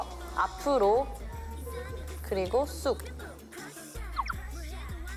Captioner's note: explains calmly